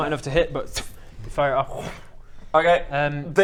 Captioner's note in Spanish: wooomf